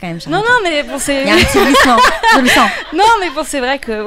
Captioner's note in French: rires